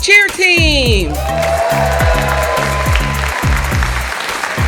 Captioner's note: audience applauds